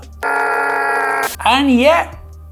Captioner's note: Centrist wailing